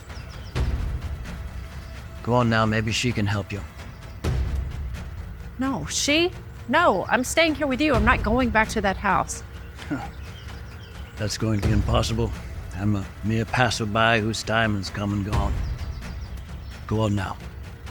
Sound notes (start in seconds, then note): 9.9 Hercules scoffs